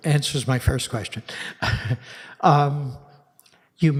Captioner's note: chuckles